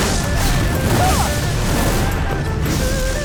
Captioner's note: grunting